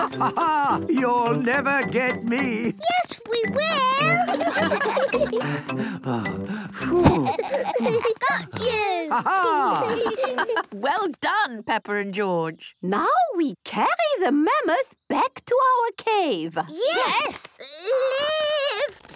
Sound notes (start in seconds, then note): 3.6 all laughing; 7.2 panting